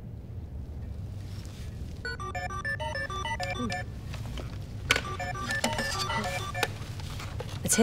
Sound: phone ringing

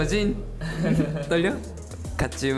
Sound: laughing

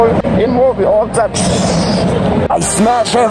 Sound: whooshing sound

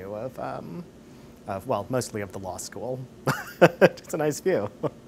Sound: chuckles; laughs

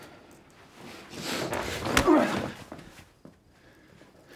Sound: grunts

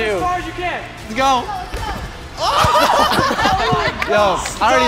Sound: guys laugh

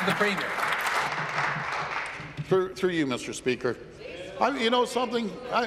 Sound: applause

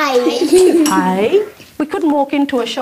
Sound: children laughing

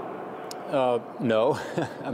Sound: laughter

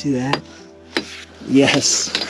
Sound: chisel clinking

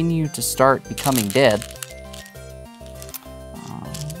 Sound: stones rattling

